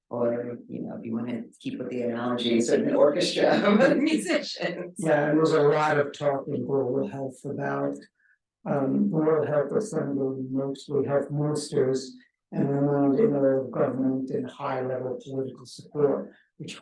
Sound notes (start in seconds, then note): 2.4 laughing